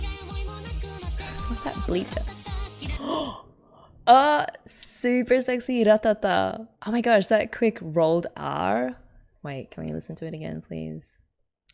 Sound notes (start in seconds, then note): 2.8 gasps